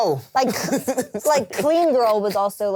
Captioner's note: laughs